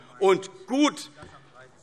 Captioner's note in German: Zuruf